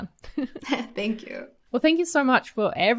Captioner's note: laughs